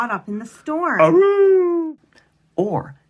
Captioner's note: howling